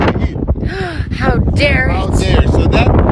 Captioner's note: gasp